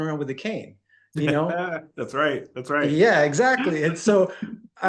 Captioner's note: laughing and nodding